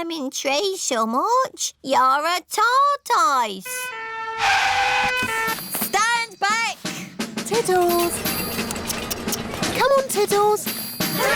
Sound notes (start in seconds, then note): 3.9 siren blaring